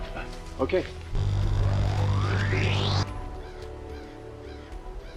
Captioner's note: electronic whirring